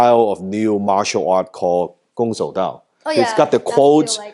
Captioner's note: speaks in foreign language